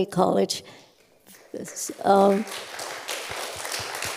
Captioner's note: applause